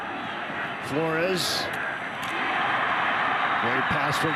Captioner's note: fans cheer